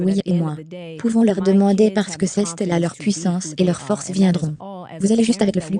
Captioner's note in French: none